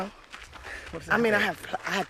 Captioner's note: overlapping chatter